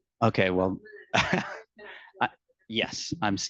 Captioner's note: laughing; attendee laughing